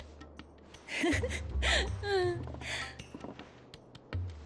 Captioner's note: sparkling laughter